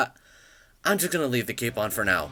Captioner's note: le inhale